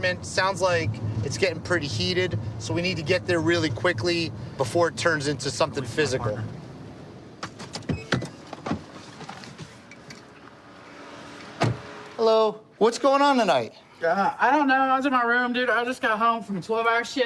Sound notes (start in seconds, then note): 7.9 beeping